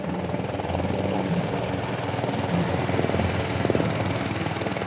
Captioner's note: blades whirring